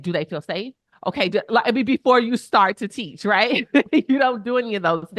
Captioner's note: chuckles